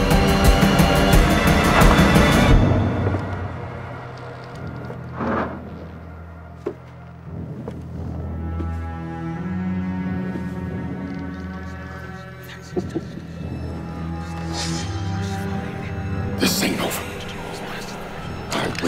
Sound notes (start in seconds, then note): 2.5 suspenseful music; 11.8 ghostly voice whispering; 12.6 Hicks chuckles